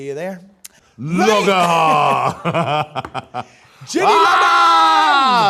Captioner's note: laughs